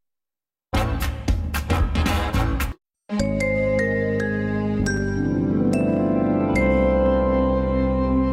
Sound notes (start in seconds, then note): 0.6 jazzy music playing; 3.2 remastered chime plays